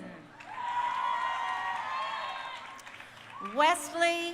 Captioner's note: crowd cheering